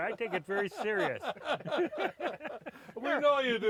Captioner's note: laughing